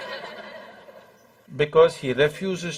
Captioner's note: laughter